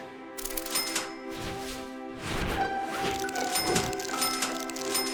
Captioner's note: cash registers ringing